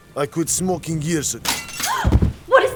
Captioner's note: smash